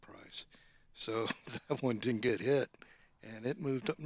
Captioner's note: laughs